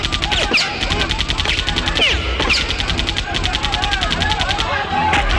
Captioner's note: crowd Chattering